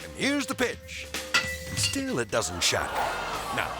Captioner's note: bottle thuds